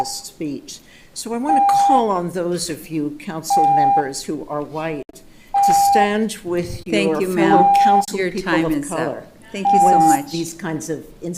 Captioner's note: horn beeping